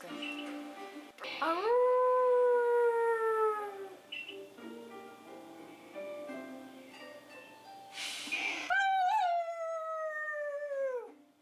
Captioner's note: dog Howling but my voice